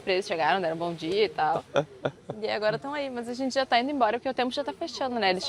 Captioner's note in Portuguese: risadas